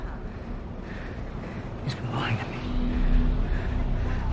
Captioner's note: breathing heavily